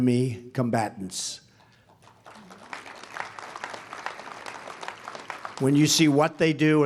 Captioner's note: applause